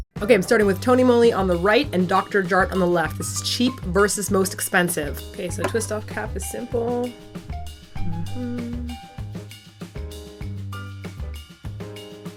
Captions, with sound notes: OK, I'm starting with Tony Moly on the right, and Dr Jart on the left. The cheap versus the most expensive. OK, so twist off cap is simple. [she hums to herself]